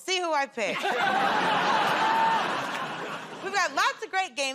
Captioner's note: laughter